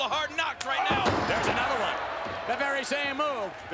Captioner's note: spectators exclaiming